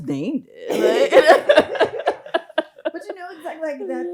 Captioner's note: both laughs